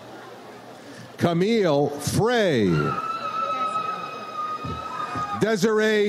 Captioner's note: audience cheers